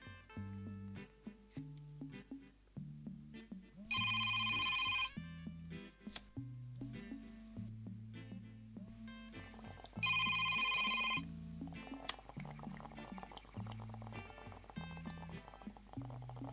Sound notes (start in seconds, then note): 4.4 Frankies phone starts ringing